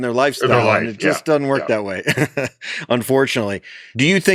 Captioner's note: laughs